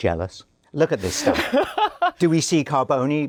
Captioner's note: laughs